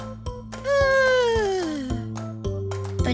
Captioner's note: yawn